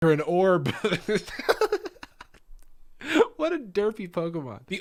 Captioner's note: laughs